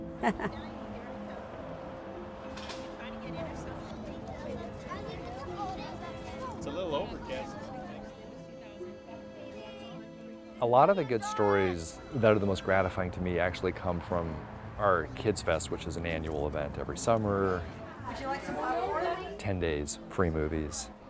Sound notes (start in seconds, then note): 0.0 laughs; 2.1 crowd chatter; 6.2 background talking of crowd; 18.3 staff and crowd talking